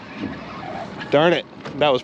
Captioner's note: groaning; reel cranking